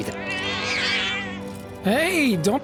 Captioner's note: meows